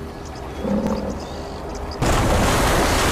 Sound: grunting

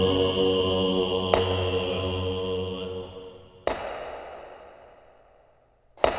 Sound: hammer strikes echoing

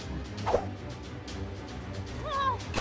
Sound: video game sounds

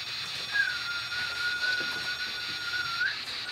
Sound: whishtle

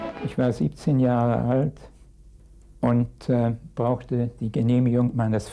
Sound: speaking in a foreign language

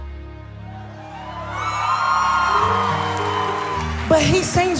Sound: cheering

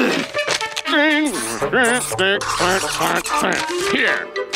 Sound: grunting

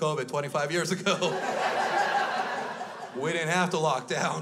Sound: crowd laughs

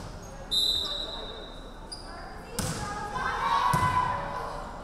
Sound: referee whistling

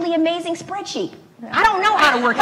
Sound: laugh

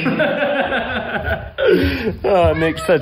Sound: both laughing

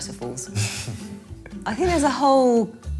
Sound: chuckling

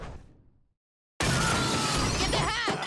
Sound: glass breaks, truck crashes

